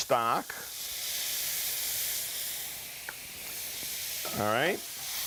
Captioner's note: sizzling pan